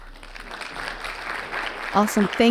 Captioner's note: audience clapping